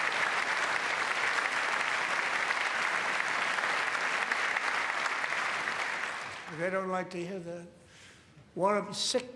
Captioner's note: applause